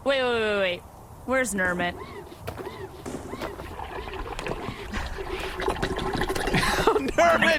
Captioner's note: sound of struggling underwater; laughing